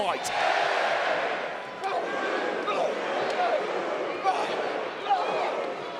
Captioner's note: crowd chants "boo/yay"